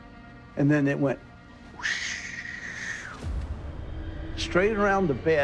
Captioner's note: mimicking wind